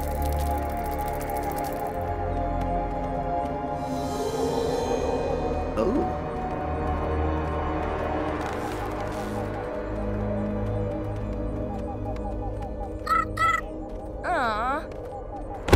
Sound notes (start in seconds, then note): 0.0 creature rustling; 12.9 snail chirping